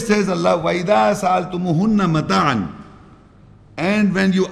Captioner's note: Arabic